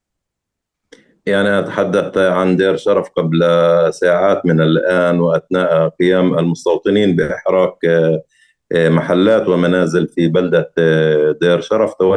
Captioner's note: speaking arabic